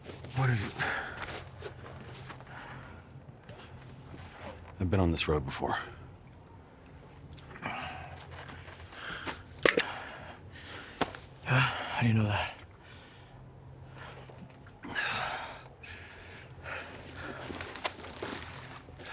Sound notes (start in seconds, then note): 14.7 Brown sighing